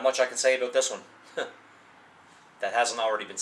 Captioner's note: laughs